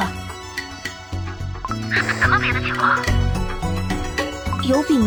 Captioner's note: static